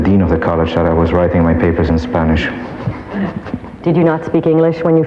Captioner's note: laughs